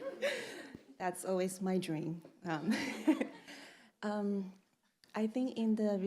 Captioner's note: chuckles; chuckles